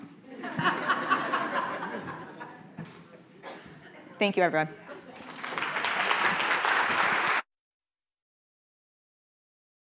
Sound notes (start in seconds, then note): 0.3 audience laughing; 5.1 audience applauding